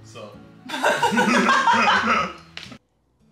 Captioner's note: both laughing